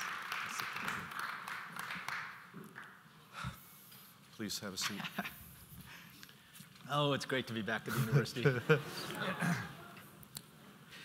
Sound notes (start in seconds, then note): 4.9 chuckles